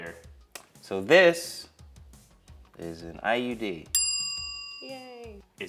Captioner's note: bell chimes